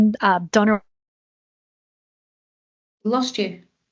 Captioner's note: audio muted